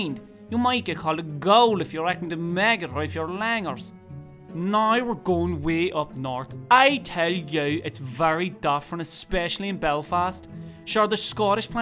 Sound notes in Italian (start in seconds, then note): 4.2 Accento dell'Irlanda del Nord